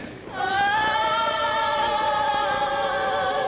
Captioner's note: women moaning